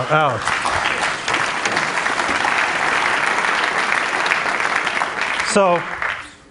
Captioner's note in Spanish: Aplausos